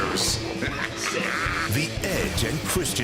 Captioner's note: laughter